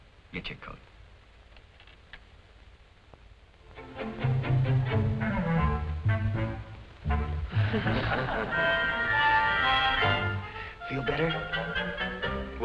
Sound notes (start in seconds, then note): 7.5 laughter